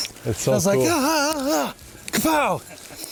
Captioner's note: yelling